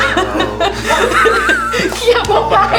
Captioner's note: laughter